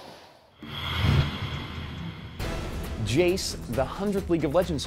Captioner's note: ominous sound